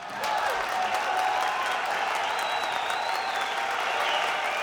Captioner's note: audience cheering